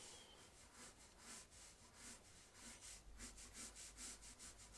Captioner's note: pencil scratching